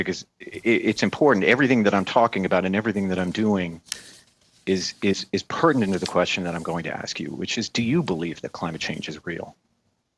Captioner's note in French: voix de l'interprète